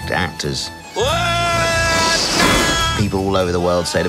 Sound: screaming

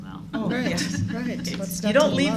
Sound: laughter

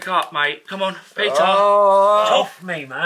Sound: groaning

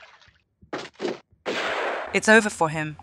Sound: shotgun sound

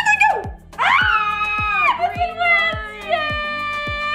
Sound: screams

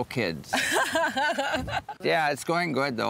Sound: laughs

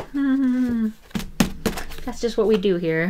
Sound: tapping

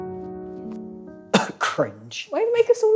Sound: coughs

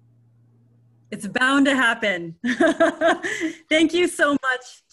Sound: laughs

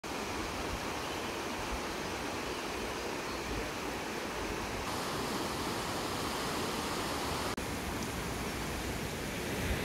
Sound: water sounds

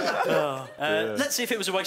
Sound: laughing drowns out speaking

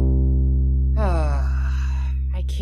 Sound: Album sighs

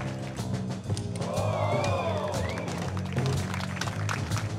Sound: applause

